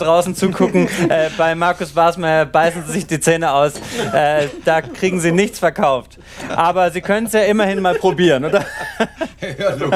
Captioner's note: laughing